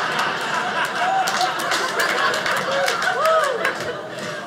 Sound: audience laughing; audience applauding

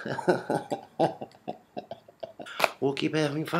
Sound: uncomfortable laugh

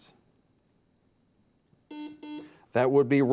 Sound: buzzer beeps

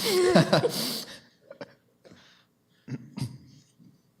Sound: laughter

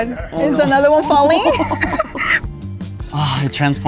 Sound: laughing

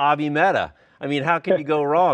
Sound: laughs

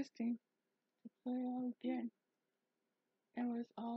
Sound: speaks english

